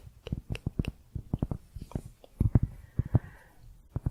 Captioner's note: tapping on cork